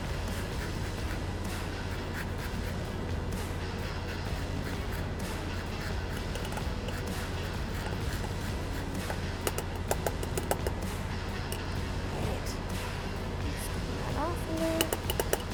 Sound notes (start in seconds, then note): 8.6 grater tapping